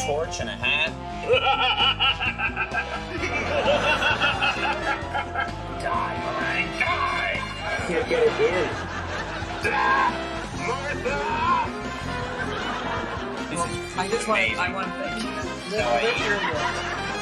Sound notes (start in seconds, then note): 1.2 Conan laughing sinisterly; 7.3 audience laughing; 16.2 chuckles